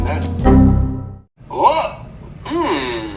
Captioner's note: Windows error sound